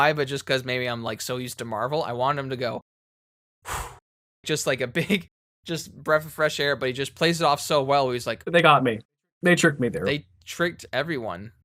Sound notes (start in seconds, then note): 3.6 sigh of relief